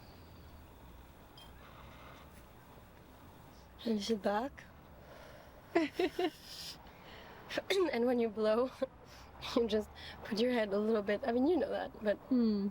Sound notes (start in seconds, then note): 5.7 laughs